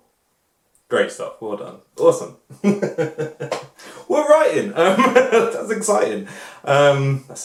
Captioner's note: laughs